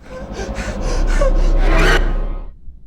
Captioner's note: roars